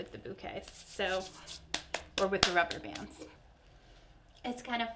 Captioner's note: hands clapping